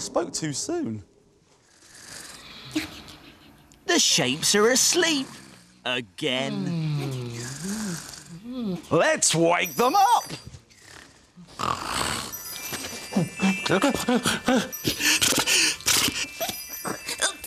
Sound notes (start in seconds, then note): 4.2 snoring; 14.1 gasps